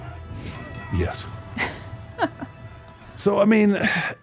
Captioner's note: host laughs